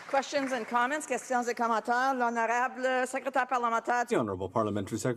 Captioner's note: applause